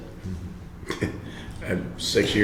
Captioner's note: laughing